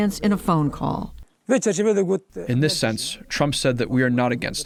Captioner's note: through translator